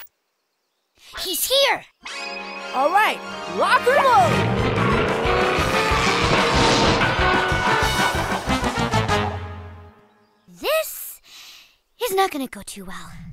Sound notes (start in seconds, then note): 4.1 engine roars